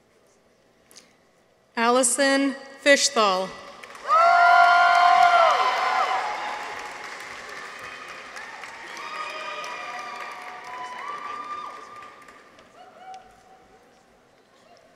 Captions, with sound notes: Allison Fischthal. -(people cheer) -(audience applauds)